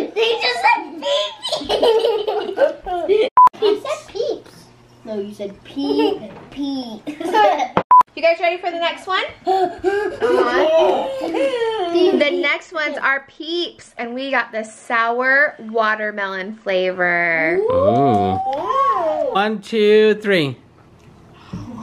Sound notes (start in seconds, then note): 1.0 laughs; 3.5 beep; 7.9 beep; 9.6 breathes hard